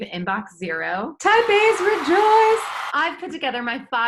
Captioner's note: crowd cheering